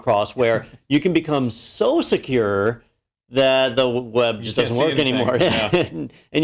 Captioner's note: laugh